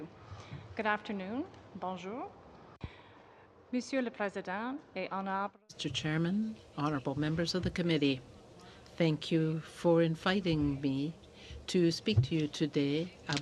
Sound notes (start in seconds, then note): 9.2 speaking French